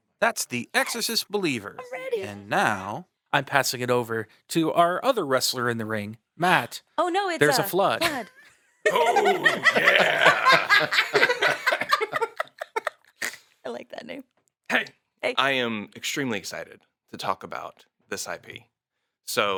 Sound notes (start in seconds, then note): 11.0 people laughing